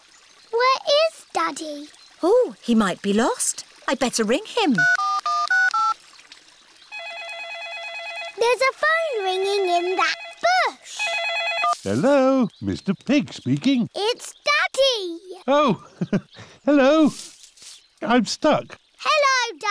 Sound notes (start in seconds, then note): 7.7 ringing